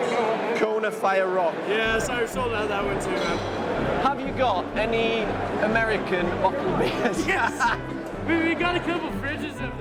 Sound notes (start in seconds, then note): 6.7 laughs; 9.6 lighthearted instrumental music